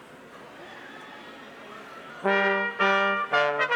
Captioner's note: crowd chattering; lively music